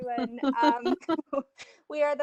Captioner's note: laughs